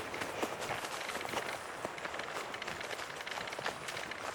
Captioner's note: footsteps crunching